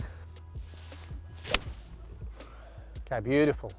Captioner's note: club strikes